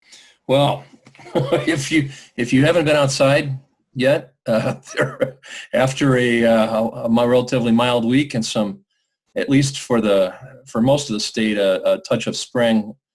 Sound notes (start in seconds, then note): 3.9 laughs